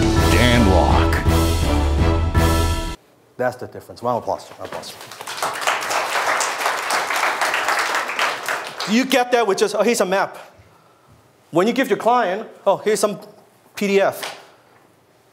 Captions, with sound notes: Dan Lok. (dramatic music) - That's the difference, round of applause. (audience claps) You get there with just oh, here's a map? When you give your client oh, here's some pdf,